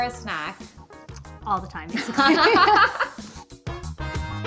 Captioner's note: laughs